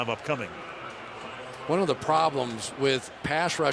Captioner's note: pa announcement